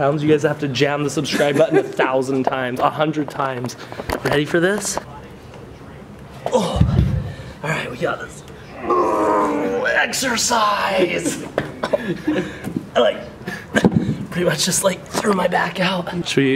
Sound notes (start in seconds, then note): 8.7 grunts; 10.9 laughs